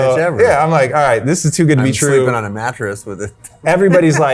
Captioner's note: chuckles